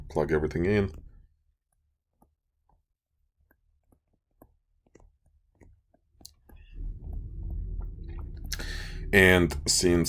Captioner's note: clicking Sounds